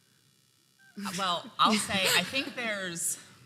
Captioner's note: laughing